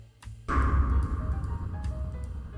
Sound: dramatic sound

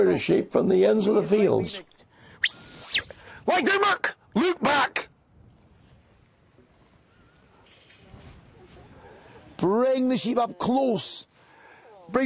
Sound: whistles

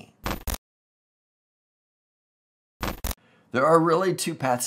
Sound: intermittent radio static

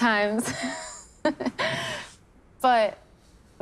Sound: both laughing

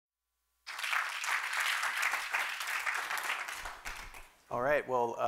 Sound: applause

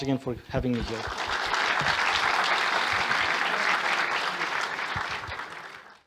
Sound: applause

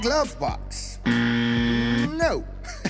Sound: alarm sounds

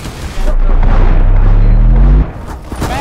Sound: bass drop reversed

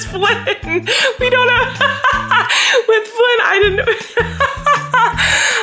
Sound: laughs

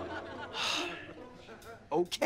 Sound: sigh

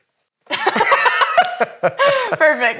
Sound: both laugh

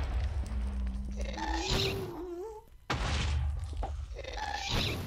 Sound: shrieking and explosions continue

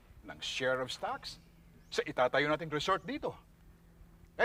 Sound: none

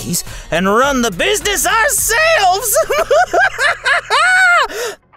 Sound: laughs

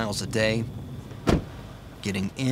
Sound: truck door shutting

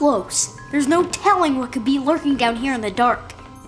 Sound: none

